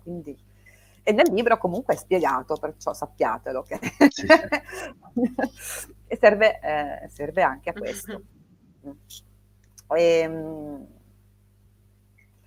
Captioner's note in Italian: risate